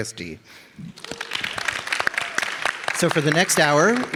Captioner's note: audience applauding